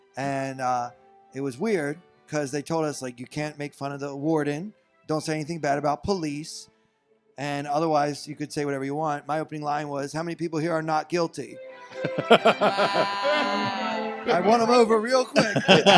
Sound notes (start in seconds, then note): 11.9 audience laughs